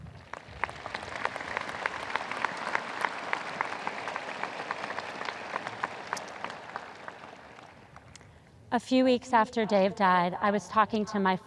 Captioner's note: audience applause